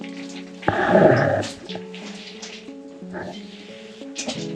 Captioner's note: shale jingling